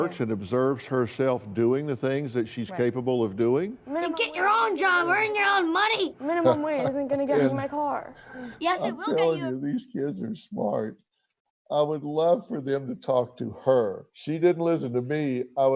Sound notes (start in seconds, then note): 6.3 laughs